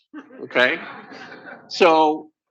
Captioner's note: laughter